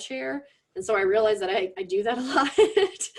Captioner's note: laughs